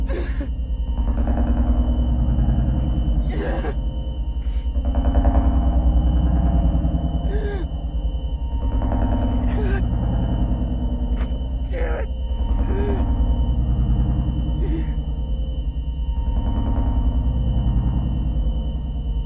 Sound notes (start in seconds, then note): 1.0 dramatic music; 4.3 Mark crying; 8.9 dramatic music; 12.7 Mark crying; 16.2 dramatic music